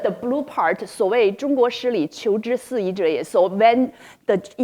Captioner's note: speaking in foreign language